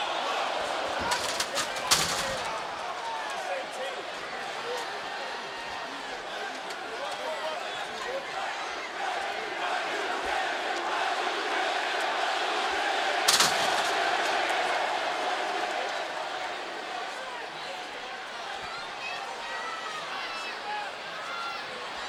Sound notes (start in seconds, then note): 7.1 applause